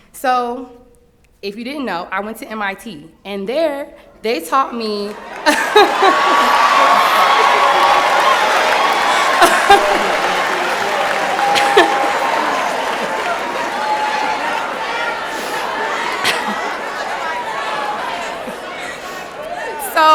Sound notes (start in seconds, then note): 4.7 laughter; 4.8 applause and Cheering